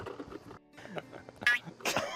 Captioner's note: doink